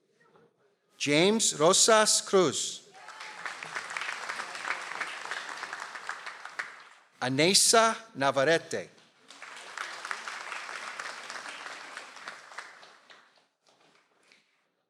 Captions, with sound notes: - James Rosas Cruz. (audience applauds) - Anesa Navarrete. (audience applauds)